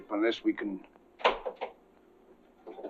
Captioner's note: window rattling